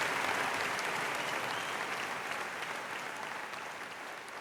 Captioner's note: applause fades